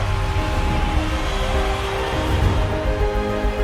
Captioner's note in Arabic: تشجيع الجمهور